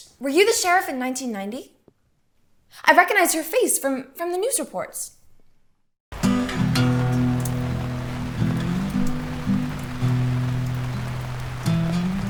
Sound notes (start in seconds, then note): 6.1 gentle acoustic music; 6.1 rain pattering